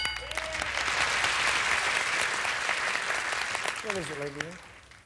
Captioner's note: audience applauding